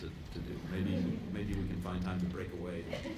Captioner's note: laughter